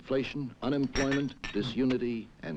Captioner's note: dishes clattering